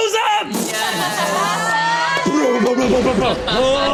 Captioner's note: cheers